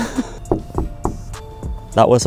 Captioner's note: laughs; knocking at door